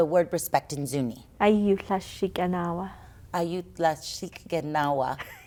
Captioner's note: laughter